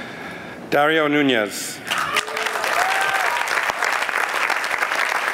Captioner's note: applause